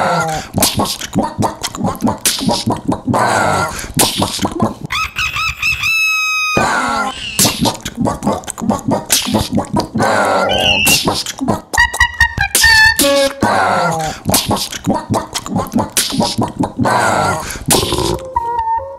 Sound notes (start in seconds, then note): 4.9 rooster crow; 6.8 chickens clucking - resembling dub step music